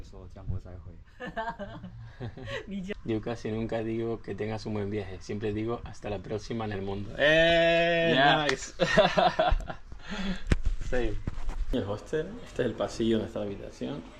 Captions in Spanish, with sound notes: See you, my brother. [risas] Yo casi nunca digo que tengas un buen viaje, siempre digo hasta la próxima en el mundo. [risas] El hostel. Este es el pasillo de está la habitación.